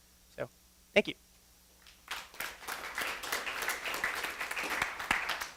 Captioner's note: applause